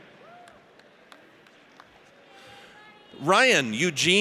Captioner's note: audience cheers